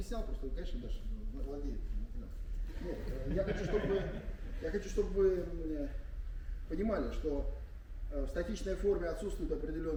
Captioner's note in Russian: смех